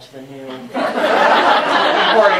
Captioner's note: laughter